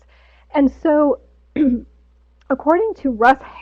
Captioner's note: clears throat